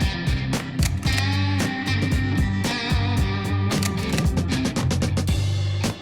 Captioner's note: slide reel continues clicking